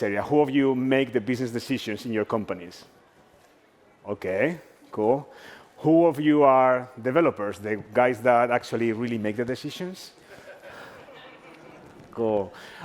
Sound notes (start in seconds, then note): 10.2 laughs